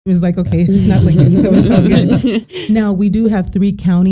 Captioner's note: both laughing